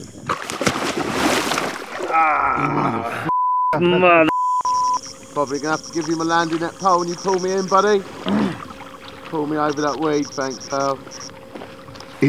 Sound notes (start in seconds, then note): 0.0 water splashing; 3.3 beep